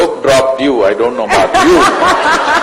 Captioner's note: laughter